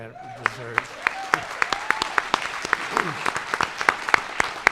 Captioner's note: audience applauds